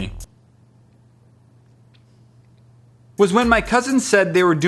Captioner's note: awkward silence